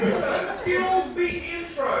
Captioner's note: crowd laughing